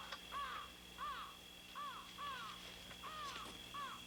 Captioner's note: crow squawking